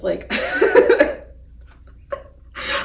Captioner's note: laughs